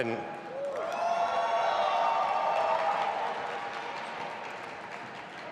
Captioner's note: audience applauding and cheering